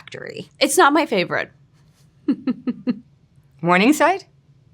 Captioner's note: chuckles